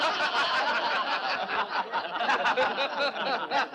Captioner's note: boisterous laughter